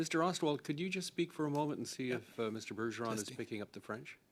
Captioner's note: speaking French